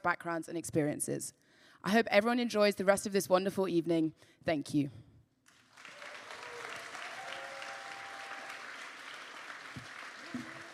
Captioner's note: applause